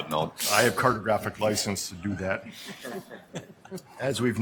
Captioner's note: laughter